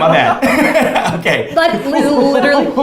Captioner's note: both laughs